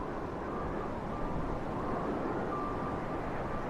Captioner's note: wind blowing